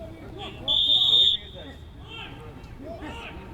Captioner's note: whistle